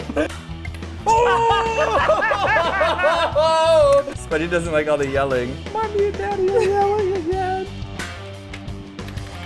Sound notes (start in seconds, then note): 1.1 laugh